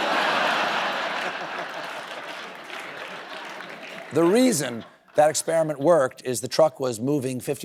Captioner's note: laughter